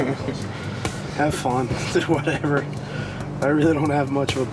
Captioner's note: laughs